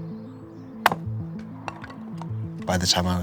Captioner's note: reflective music; wood splitting